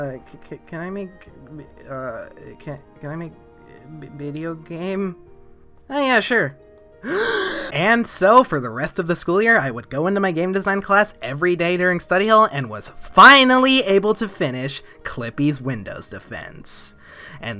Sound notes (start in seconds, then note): 7.0 inhaling